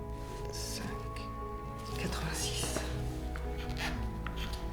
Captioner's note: speaks in French; inquisitive music